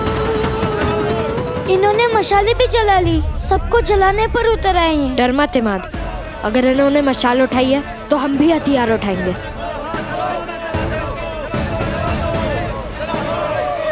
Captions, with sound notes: They have burned the torches too. They're here to burn everything down. Don't worry, Imaad. If they have lit torches then we will lift weapons too. [shouting]